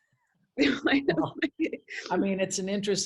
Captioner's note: laughs